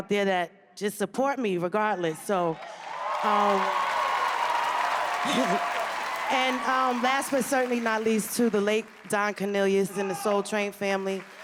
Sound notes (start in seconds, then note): 3.7 cheers and applause